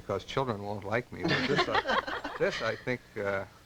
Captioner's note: laughter